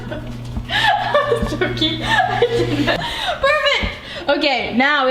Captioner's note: laughs